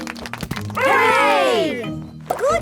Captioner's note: crowd applauding